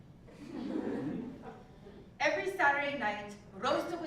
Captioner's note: laugh